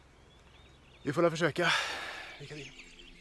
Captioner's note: sigh